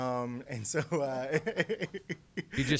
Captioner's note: laughter